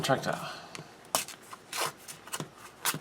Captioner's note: tearing sounds